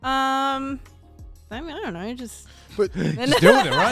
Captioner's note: laughs